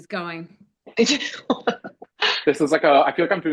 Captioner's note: laughs